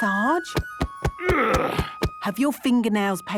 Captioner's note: thumping; moaning